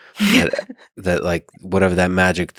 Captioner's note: laughs